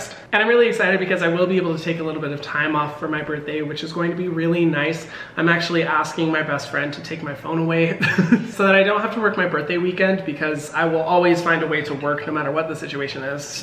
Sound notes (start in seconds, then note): 8.0 laughs